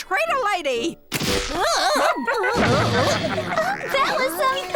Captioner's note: snapping